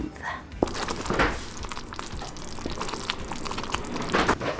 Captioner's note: liquid sloshing